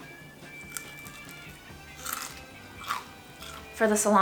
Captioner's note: skin crunching